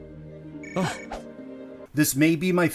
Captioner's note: sudden phone ringing